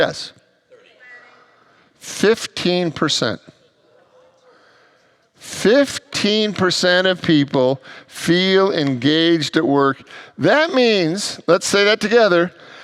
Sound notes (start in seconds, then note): 4.4 congregants gasps